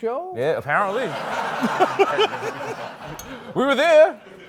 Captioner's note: laughter